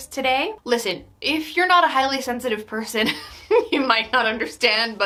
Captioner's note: laughs